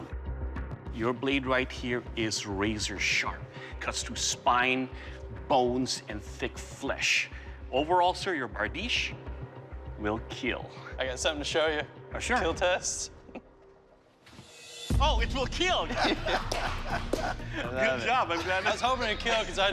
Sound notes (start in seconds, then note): 15.8 laughter